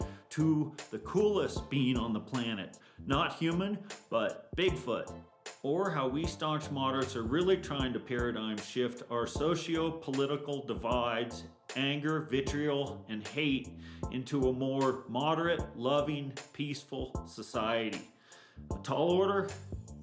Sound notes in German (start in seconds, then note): none